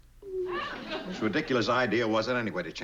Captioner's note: whines